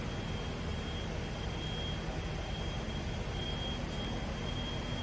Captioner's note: alarm beeping